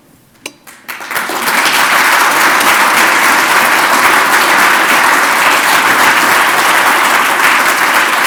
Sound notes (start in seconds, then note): 2.5 applause